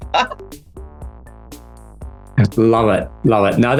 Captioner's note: laughs